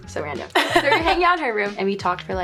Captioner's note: interviewer laughs